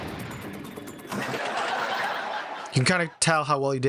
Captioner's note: canned laughter